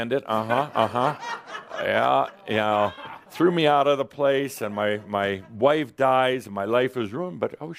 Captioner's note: some laughter